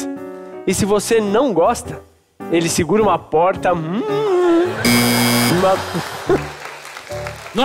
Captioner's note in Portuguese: campainha